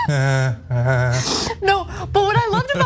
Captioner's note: laugh